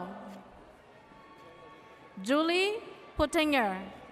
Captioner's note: audience cheers